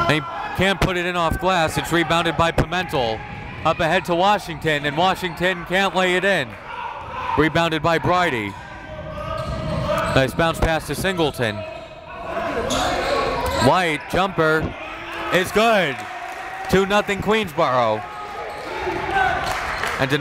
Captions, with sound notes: and he can't put it in off glass. It's rebounded by Pimentel. Up ahead to Washington and Washington can't lay it in. Rebounded by Brydie. Nice bounce pass to Singleton. Leite jumper is good. (applauding) Two nothing, Queensborough.